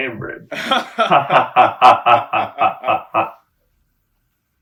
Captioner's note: forced laughing